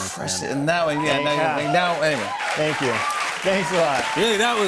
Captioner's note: cheers and applause